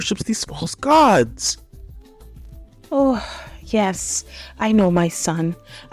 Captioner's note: sighs heavily